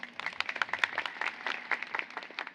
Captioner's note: applause